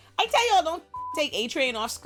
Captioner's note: beep